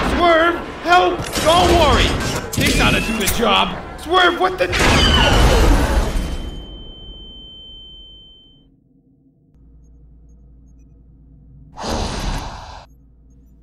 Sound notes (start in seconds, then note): 4.5 deafening blast, sparkeater roars!; 11.8 Pyra lets out the most disappointed of sighs